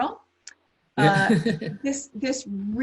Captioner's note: laughs